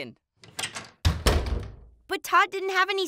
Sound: door slams

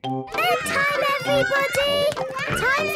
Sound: children playing

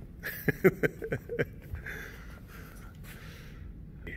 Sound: laughing

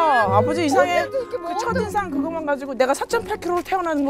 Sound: complaining

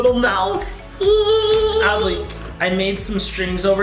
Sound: laughs

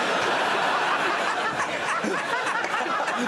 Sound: crowd laughs

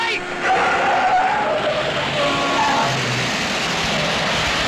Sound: tires squealing

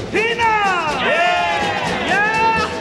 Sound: crowd

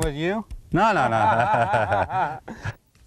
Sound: laughter

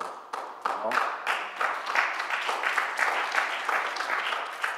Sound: audience applauds

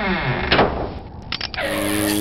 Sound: door open and closes; click; skid

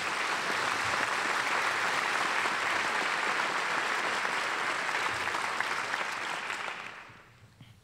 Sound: applause

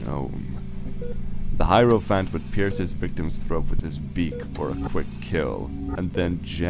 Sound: mechanical ambiance

